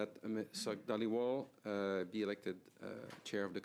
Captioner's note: speaking in French